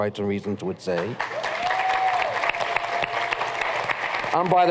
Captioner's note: cheers and applause